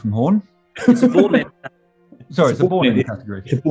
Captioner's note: laughing